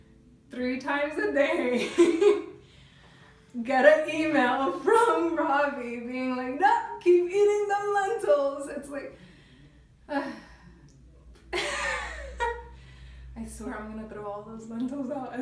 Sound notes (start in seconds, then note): 10.1 sighs loudly; 11.6 laughing